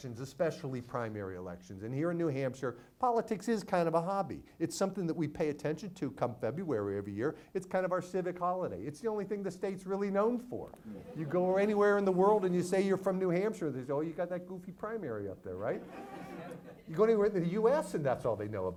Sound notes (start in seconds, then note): 15.7 audience laughs